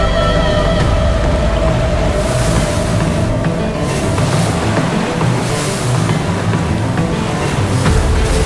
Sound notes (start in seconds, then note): 2.5 suspenseful music; 2.5 water cascading